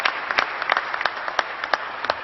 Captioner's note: applause